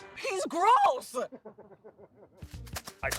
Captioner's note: laughter